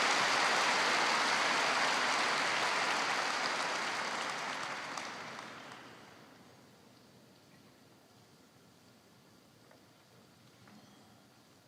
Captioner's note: cheers and applause